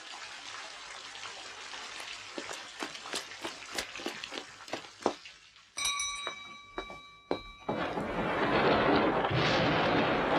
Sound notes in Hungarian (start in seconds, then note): 5.8 csengetés; 7.7 mennydörgés